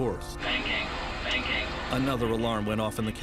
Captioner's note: beeping